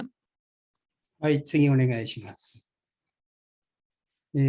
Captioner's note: speaking japanese